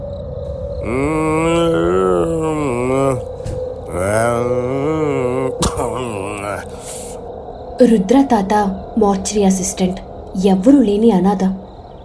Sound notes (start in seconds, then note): 3.6 humming